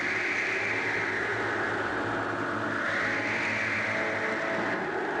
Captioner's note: wind howling